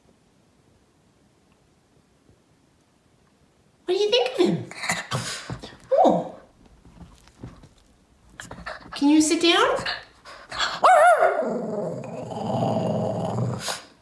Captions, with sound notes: What do you think of him? (snuff) Oh! (heavy breathing) Can you sit down? (ruff ruff) (growl grumble)